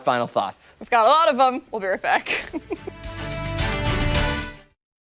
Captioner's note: laughter